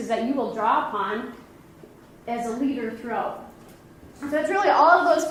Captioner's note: none